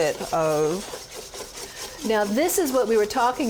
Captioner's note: whisking